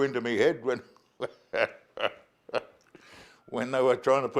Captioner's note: laughs